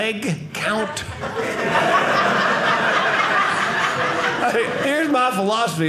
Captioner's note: audience laughing